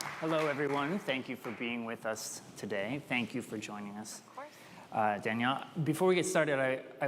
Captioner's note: applause